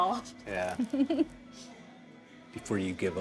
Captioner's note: Keely chuckles